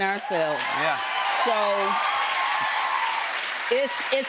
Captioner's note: cheers and applause